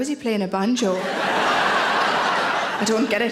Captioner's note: audience laughing